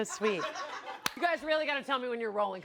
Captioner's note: audience laughs